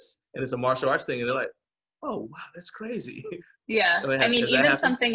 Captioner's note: chuckling